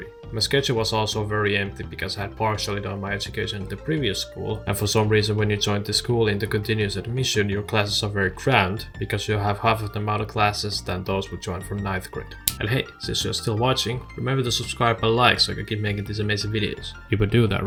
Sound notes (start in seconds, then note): 12.4 snap